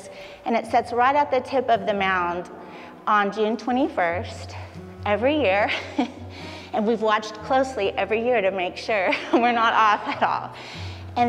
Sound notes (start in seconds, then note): 5.7 laughs